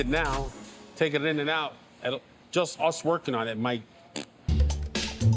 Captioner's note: blows raspberry; inquisitive music